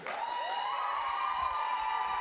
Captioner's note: applause